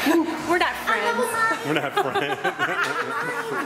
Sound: laughing

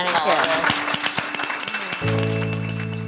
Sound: clapping

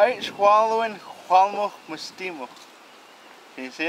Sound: speaking Hul'qumi'num

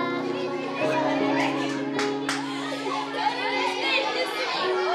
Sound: children chattering

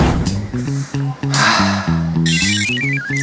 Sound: sighs

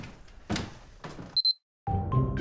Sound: camera beeps; theme music

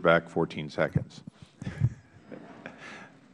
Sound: laughter

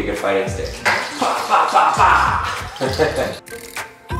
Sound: laughing; beat music

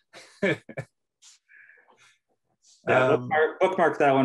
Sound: laughs

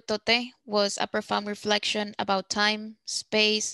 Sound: speaking Spanish

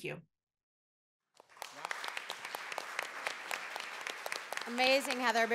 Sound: applause

